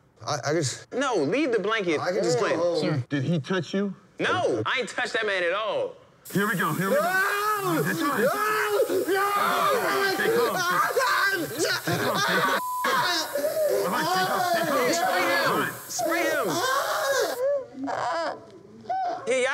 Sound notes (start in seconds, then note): 6.9 screaming; 12.8 screaming; 16.6 screaming and moaning